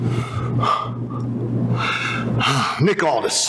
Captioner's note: sighs